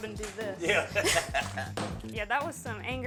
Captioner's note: laughs